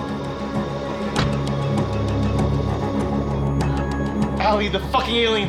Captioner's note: car door closing